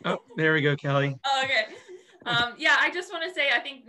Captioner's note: laughing